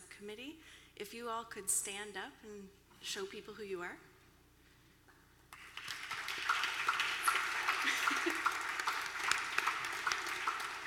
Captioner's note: applause